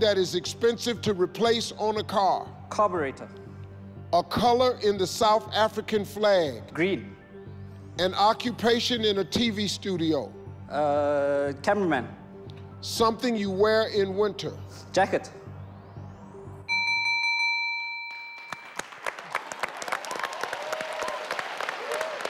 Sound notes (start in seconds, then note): 16.7 clock dings; 18.3 audience and team applaud